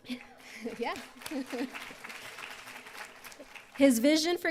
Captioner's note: applause